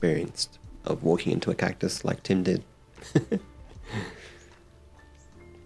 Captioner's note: chuckles; gentle music